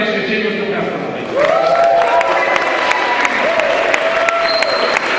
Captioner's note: cheering